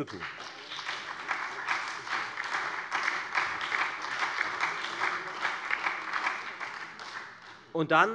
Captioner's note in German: Beifall bei der FDP, der SPD und der LINKEN